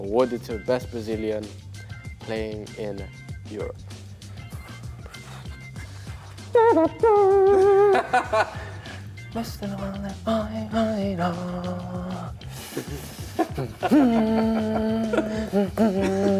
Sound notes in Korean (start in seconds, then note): 6.2 피르미누의 응원가 'si senor'를 흥얼거리는 로버트슨